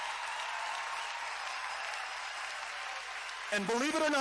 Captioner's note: cheering